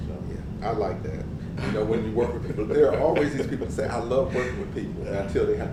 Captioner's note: laugh